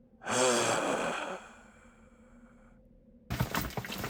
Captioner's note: sighing